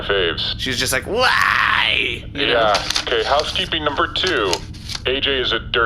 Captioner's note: imitating Bargie